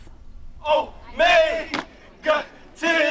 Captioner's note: chanting